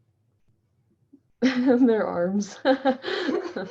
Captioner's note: chuckles